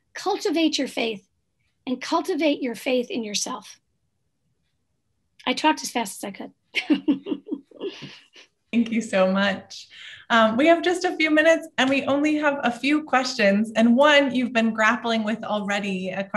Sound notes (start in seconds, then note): 6.8 laughs